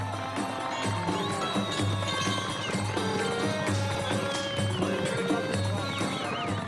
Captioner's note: crowd applauding; crowd whistling; upbeat instrumental music